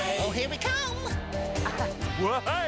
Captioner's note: chuckling